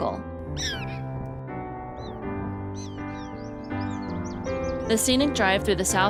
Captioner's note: prairie dogs chirping